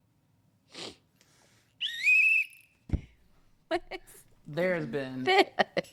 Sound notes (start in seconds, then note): 0.7 sniffs; 1.8 whistles; 5.2 laughs